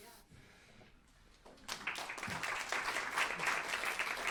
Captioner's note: applause